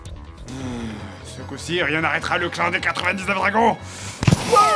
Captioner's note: sigh